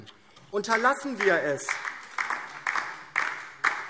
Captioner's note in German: Beifall DIE LINKE